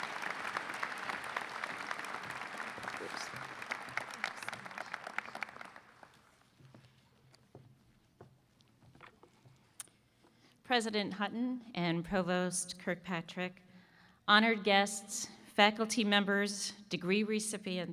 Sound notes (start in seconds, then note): 3.5 applause